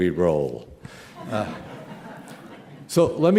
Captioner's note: laughter